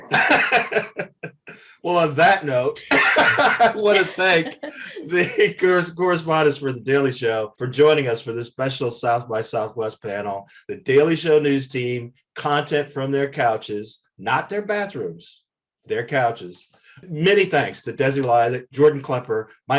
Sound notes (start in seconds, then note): 0.0 Eric laughs; 3.1 Eric laughs